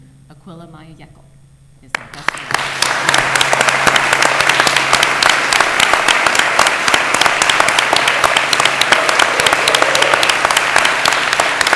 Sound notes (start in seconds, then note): 2.6 applause